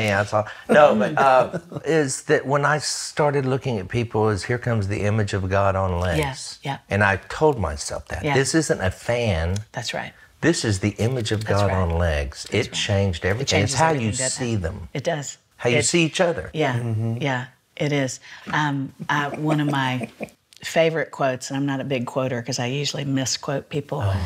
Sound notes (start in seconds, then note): 19.0 laughs